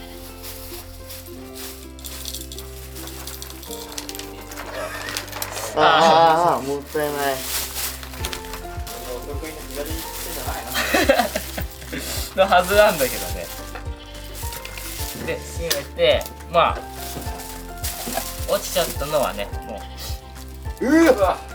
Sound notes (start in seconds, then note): 7.7 laughs